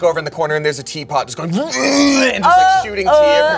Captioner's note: gags